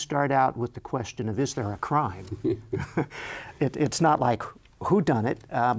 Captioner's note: chuckles